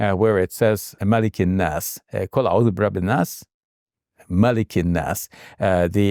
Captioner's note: speaking in Arabic